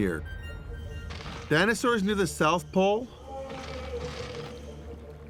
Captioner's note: dinosaur bellows